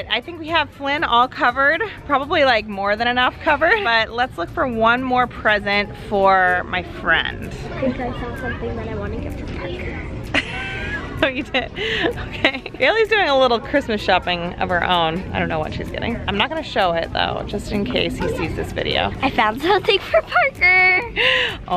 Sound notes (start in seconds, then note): 10.3 laughing